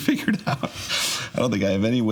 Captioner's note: laughs